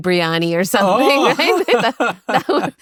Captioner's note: laughs